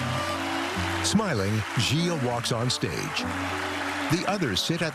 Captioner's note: cheering and applause